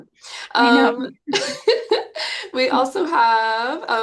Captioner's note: chuckles